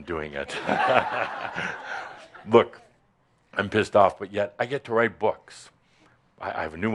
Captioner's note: laughter